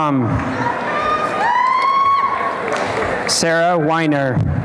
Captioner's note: applause and cheering